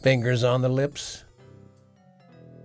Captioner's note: bells chiming